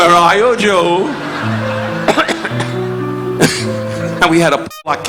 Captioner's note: audience laughing; Don coughing